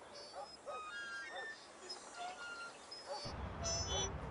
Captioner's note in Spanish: Crujido del columpio